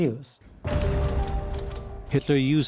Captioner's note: typewriter clicking